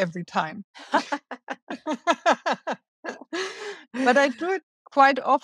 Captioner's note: laughing